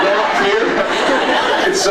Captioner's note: laughs